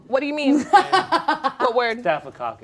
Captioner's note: laughing